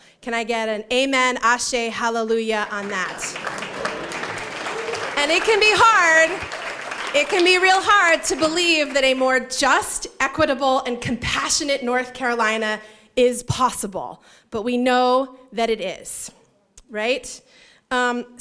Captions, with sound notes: Can I get an amen, ashay, hallelujah on that? [applause] And it can be hard. It can be real hard to believe that a more just, equitable and compassionate North Carolina is possible. But we know that it is right.